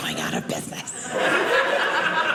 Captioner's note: audience laughing